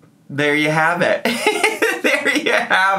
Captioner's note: laughing